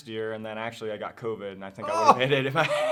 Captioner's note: groans